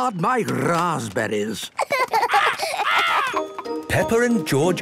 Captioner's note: laughs